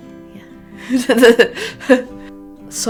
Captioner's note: laughs